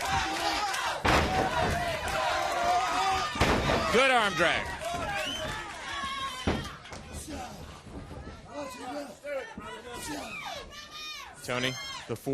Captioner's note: crowd cheering; crowd chatter